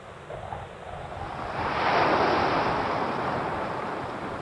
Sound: wind rustling

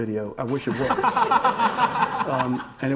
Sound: audience laughing

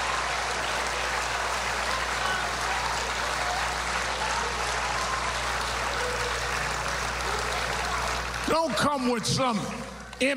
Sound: applause

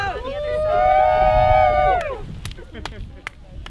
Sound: all cheering; laughing

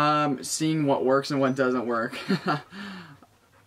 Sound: nervous laugh

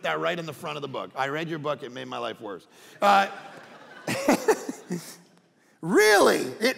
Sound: all laughing

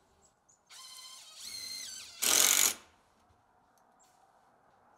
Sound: drill whirring

